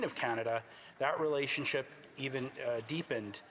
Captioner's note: speaking French